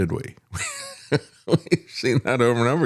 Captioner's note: laughing